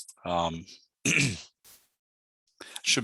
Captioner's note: clears throat